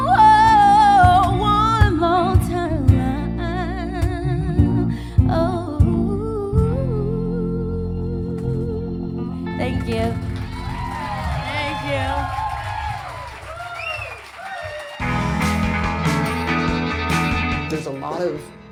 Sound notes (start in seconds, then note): 10.1 cheering